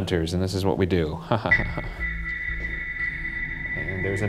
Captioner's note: chuckling